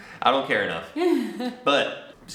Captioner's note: chuckles